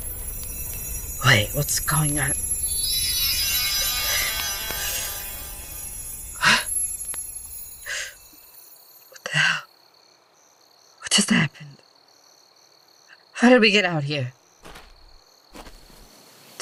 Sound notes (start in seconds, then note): 5.7 teleport noises